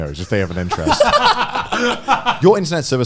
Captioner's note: laughing